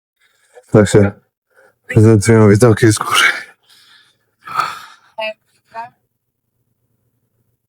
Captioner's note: sigh